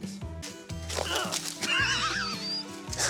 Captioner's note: grunt; snickers